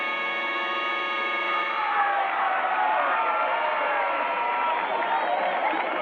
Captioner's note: people cheering